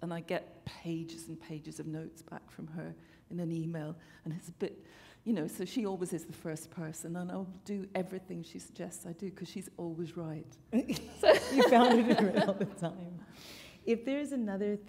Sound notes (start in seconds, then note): 10.8 laughter